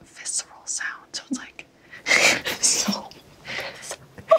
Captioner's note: laughs